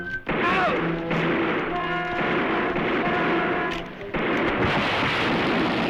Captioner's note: gunfire